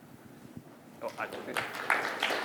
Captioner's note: applause